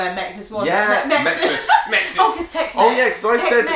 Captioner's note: laughing